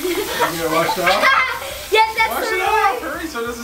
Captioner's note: laughs